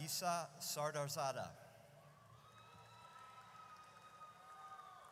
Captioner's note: audience cheers